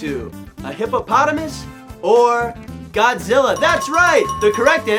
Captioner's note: ding-ding-ding